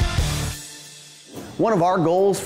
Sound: whooshing

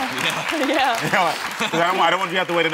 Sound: audience applauding

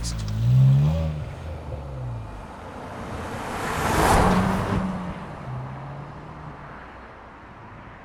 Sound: engine sound

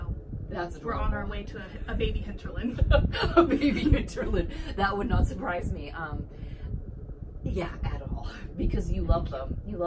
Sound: laughs

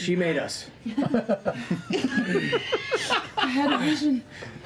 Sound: laughter

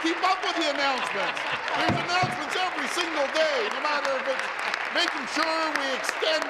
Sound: applause

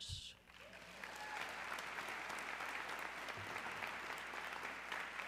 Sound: audience clapping

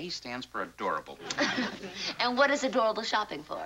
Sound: light laugh

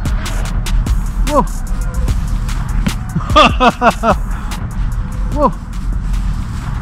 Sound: laughs

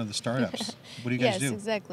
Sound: chuckles

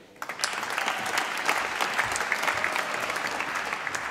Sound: applause

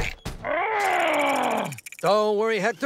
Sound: growling

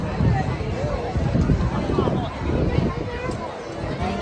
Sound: wind rumbling

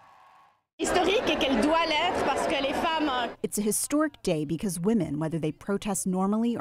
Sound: through translator

